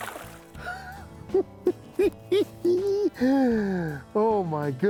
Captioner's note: chuckles